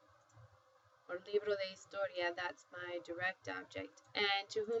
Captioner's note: spanish